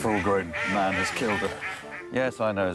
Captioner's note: ducks quacking